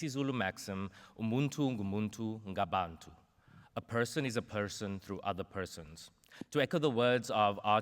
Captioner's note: non-english